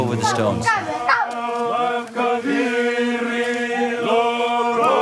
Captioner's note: Fijian spoken audio